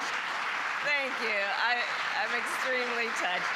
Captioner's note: applause